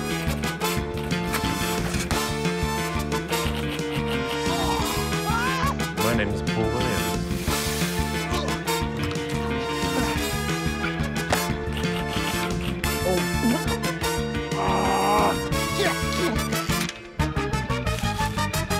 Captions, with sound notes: (KEYS CLACK) - (GROANS) - (EXCLAIMS) - My name is Paul Williams. - (GRUNTS) - (GRUNTS) (KEYS CLACK) - Oh! - (STRAINS) - (GRUNTS)